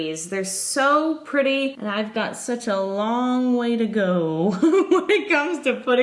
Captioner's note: giggles